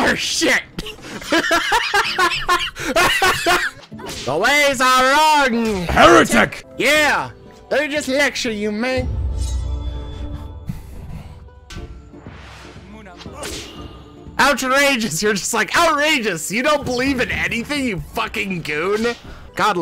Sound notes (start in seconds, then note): 0.8 laughs